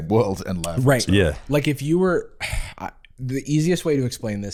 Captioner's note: sighs